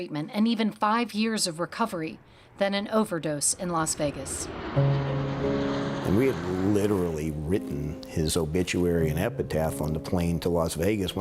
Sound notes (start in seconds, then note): 4.4 solemn music; 4.5 airplane roars